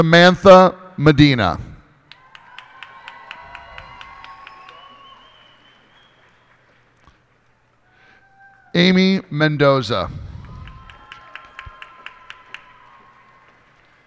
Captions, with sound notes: Samantha Medina. [cheers and applause] Amy Mendoza. [cheers and applause]